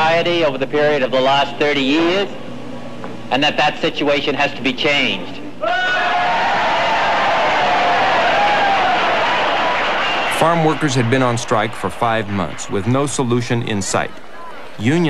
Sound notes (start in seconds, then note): 5.6 cheers and applause